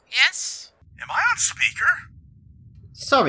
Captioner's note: Annie radio voice; radio voice